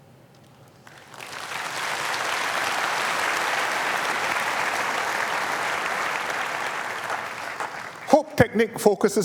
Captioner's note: applause